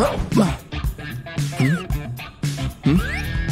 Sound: groans; moaning

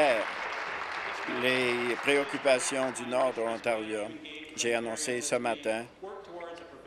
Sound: applause

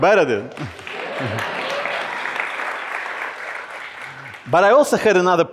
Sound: crowd applauds

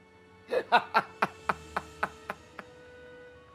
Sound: laughs

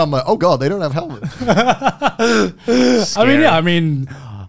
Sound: laughing

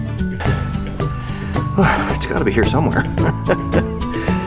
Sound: sigh; chuckles

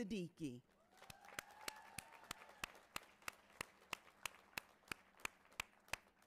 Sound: audience applauding and cheering

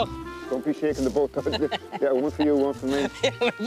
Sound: laughing

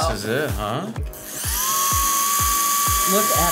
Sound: ball revs

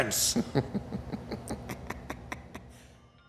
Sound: giggles

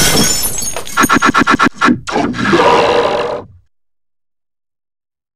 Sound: electronic voice

